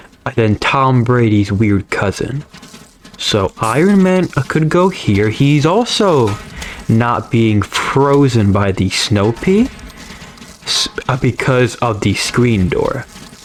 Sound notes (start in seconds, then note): 6.5 inhales Oxygen